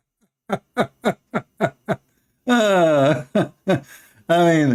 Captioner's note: Ketawa